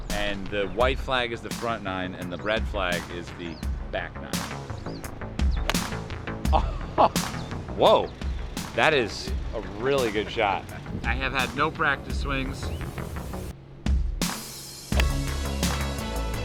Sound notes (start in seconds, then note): 6.5 laughs